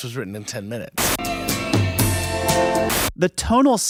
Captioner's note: static hissing